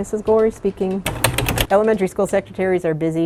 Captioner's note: typing machine clacking